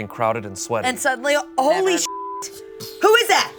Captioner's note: beep